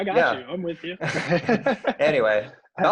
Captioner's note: all laughing